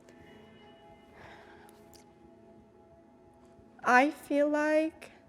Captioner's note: woman exhales